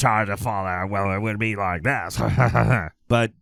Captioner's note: laughs